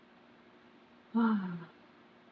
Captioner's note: sighs